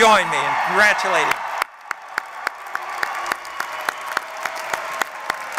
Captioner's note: applause